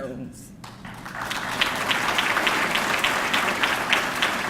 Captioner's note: audience clapping